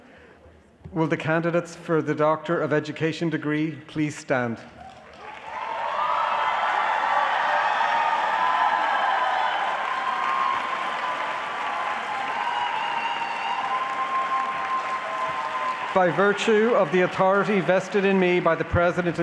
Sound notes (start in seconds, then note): 4.8 applause